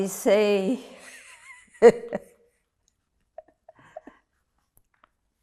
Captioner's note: laughing